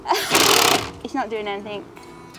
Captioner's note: drill sputters